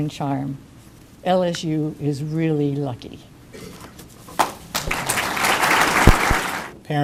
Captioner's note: applause